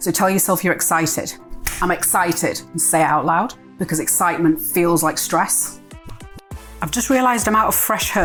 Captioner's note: hand clap